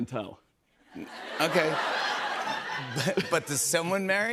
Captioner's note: laughter